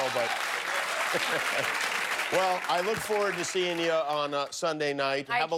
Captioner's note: laughter